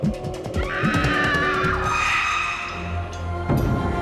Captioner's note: screaming